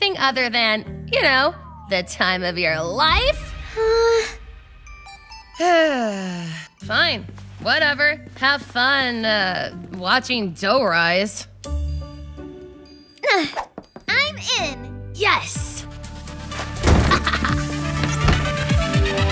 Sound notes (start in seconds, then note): 5.6 sighs; 12.2 pensive music; 17.0 laughing